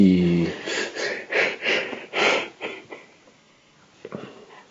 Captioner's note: crying